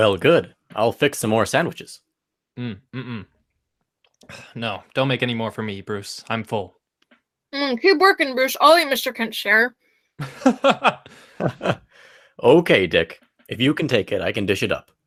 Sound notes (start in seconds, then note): 2.6 laughs, swallows; 7.0 mouth full; 10.2 laughs